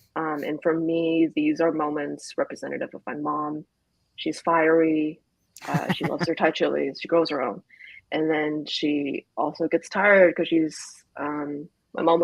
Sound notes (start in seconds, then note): 5.6 laughs